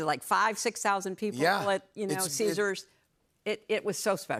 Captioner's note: none